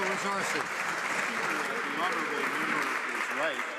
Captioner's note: some Applause